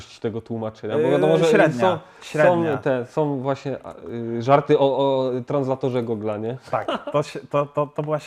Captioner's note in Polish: śmiech